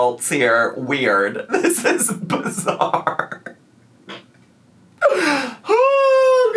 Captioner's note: laughing